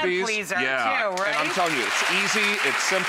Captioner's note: audience applauds